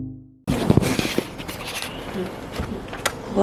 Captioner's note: scuffle scuffle